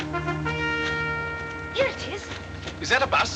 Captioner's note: vehicle Approaching